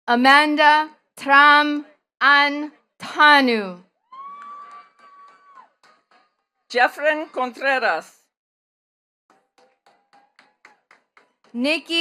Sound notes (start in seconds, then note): 4.0 attendees cheering and clapping; 9.3 attendees clapping